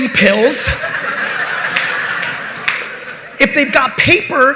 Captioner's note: audience laughing